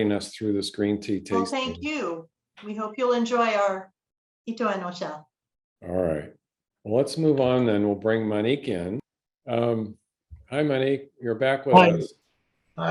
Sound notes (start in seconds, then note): 4.8 japanese